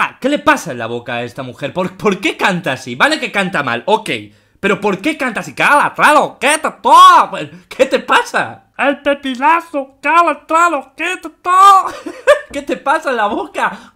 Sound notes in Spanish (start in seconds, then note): 5.6 voz de subnormal intensified; 11.8 risas